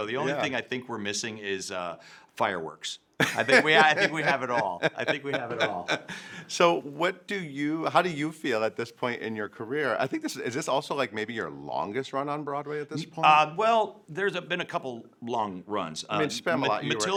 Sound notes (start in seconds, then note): 3.2 laughing